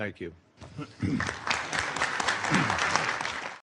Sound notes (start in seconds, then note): 1.0 applause